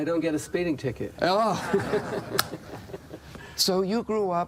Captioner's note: laughter